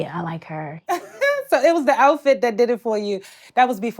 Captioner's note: laughs